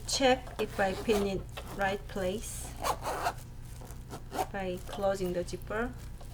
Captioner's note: zipper zipping